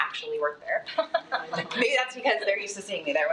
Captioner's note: audience chuckles